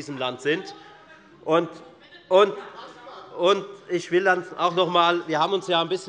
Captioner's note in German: Zurufe von dem BÜNDNIS 90/DIE GRÜNEN und der LINKEN